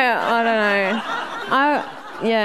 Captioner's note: audience laughing